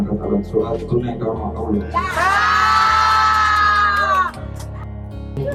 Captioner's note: yelling